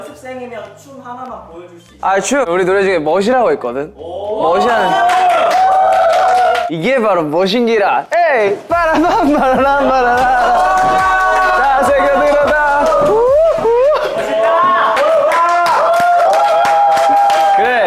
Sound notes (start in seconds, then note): 4.8 clap